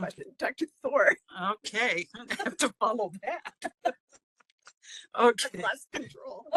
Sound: laughing

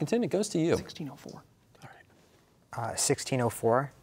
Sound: whispering

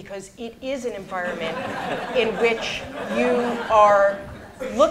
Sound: laughter

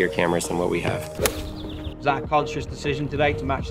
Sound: golf club whacks

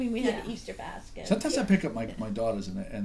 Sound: voiceover

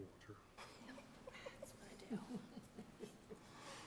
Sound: chuckles

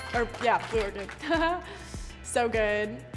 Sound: chuckling

